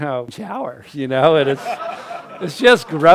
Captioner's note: crowd laughs